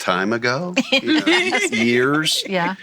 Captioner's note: laughing